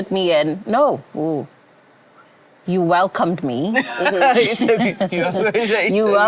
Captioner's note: laughter